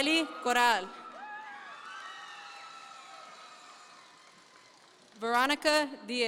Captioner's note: audience members cheer